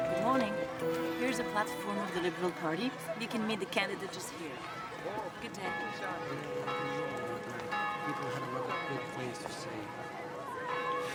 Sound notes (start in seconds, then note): 0.0 people chatter indistinctly; 6.4 bell tolls